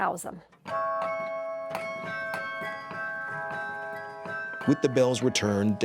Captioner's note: bells ringing